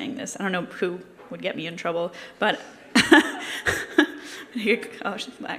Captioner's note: laughter